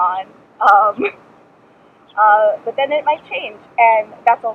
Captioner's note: laughs